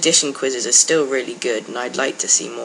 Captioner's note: none